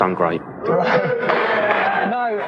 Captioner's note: audience jeering